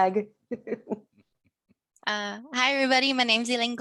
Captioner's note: laughing